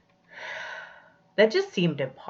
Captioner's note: sighs